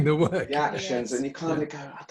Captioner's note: laughs